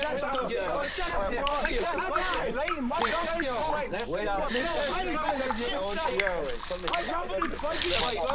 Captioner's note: rope being sliced by broken glass